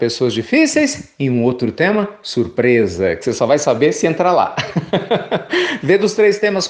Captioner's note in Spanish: risas